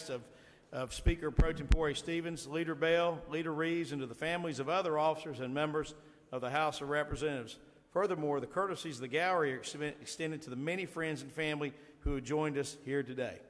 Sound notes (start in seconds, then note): none